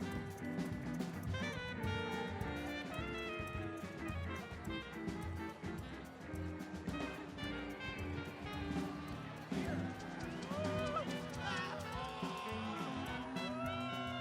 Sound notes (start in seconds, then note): 9.3 shouting